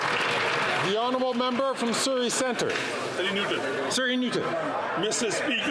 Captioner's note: some Applause